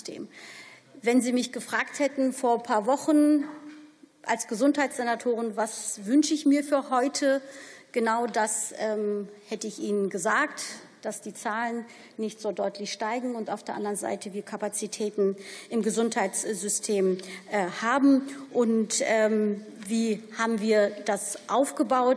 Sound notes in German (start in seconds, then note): none